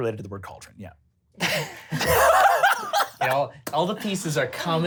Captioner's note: laughs